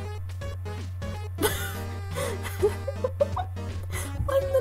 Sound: laughing at this ridiculousness cause what else can ya do

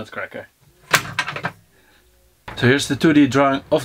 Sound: nut cracking

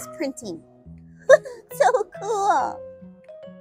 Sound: laugh

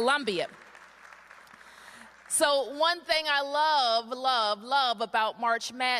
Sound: applause

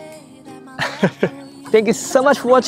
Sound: laughs

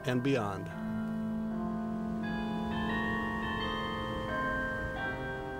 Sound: bells continue chiming

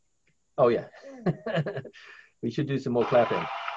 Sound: laughs; crowd applauds

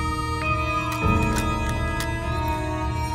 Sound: clattering sound

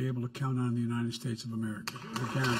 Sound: applause

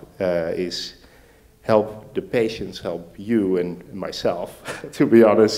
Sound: laughs

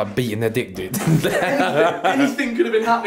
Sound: laughing

